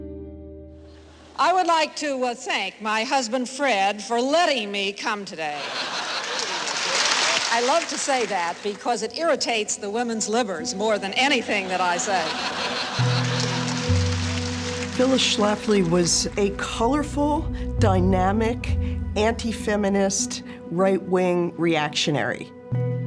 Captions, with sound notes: >> I would like to thank my husband, Fred, for letting me come today. (audience laughs and applauds) I love to say that because it irritates the women's libbers more than anything that I say. (audience laughing) >> Phyllis Schlafly was a colorful, dynamic, anti-feminist, right-wing reactionary.